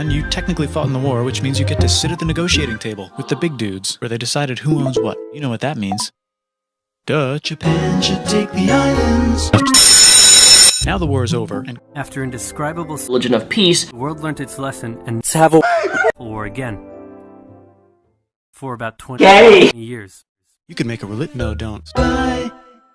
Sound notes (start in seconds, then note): 9.7 school bell rings